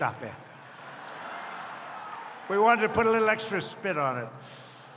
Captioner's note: laughter